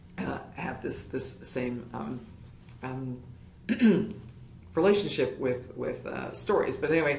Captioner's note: cough